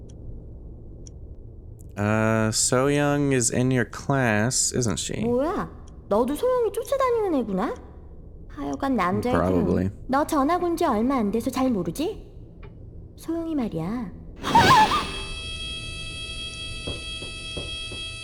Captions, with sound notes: So-yeong is in your class, isn't she? Probably. [alarm suddenly ringing]